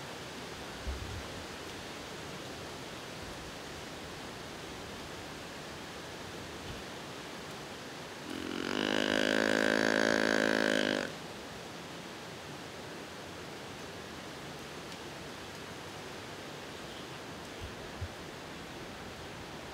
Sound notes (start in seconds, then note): 8.3 grunting